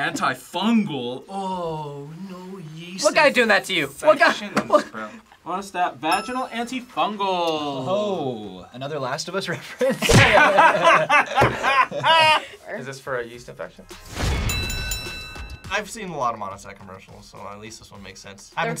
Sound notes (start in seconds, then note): 9.8 both laugh; 14.2 bell rings